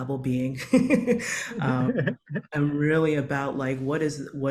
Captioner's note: chortles